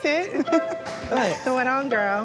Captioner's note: both laughing